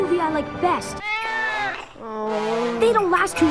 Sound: cat meowing, Arthur sighs

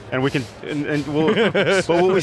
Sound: laughing

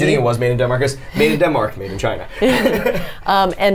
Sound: laughs

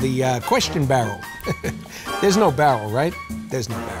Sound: chuckles

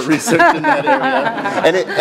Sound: laugh

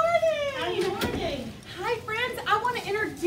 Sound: voice off screen

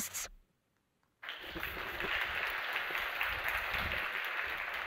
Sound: applause

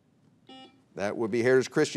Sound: buzzer beeps

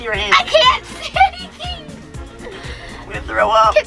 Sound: laughing

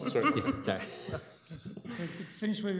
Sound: laughter

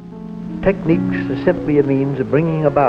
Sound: voiceover

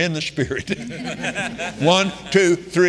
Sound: congregation laughing

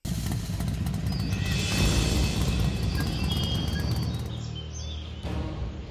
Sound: Owen revs motorcycle

